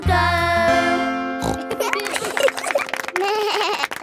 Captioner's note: snorts; laughing; bleats and laughs